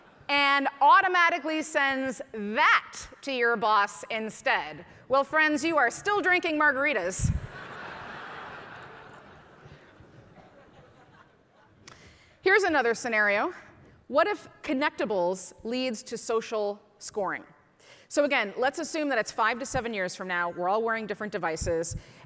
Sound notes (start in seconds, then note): 0.0 audience laughing; 7.4 audience laughing